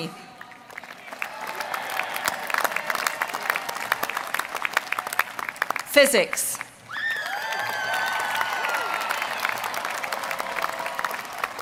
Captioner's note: applause